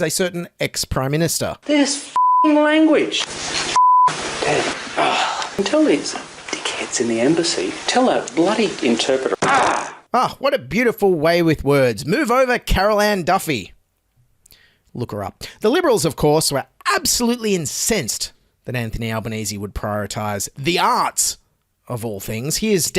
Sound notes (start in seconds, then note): 9.4 bang